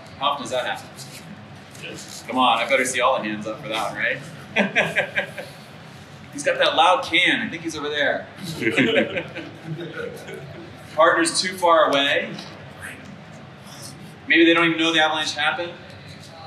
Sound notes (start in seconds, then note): 4.2 laughs; 8.5 crowd laughs